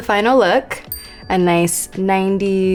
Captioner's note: bell dinging